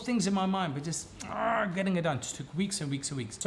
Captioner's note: groans